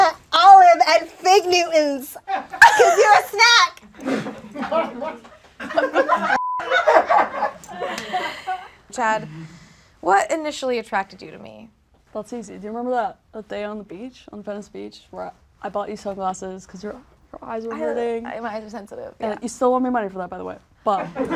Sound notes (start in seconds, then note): 5.6 audience laughs; 6.3 beep; 21.0 audience laughs